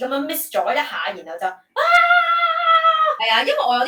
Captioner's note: scream